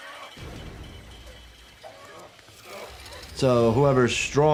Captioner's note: dramatic music; machine whirs